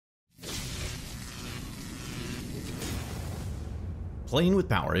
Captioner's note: electricity crackling